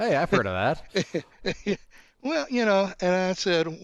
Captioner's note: laughs